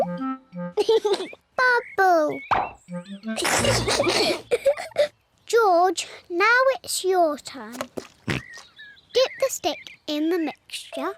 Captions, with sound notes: (LAUGHS) Bubble! (BOTH GIGGLE) -George, now it's your turn. -(OINKS) Get the stick in the mixture.